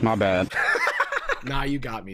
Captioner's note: laughs